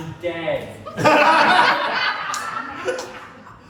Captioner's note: laughter